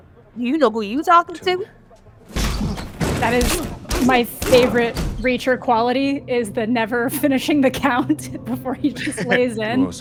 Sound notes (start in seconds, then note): 2.3 headbutt cracks